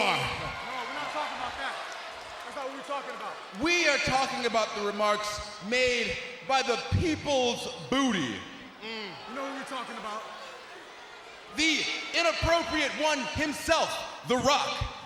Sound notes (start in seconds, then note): 8.6 crowd roars